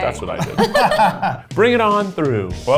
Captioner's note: laughs